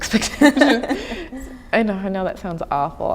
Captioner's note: chuckling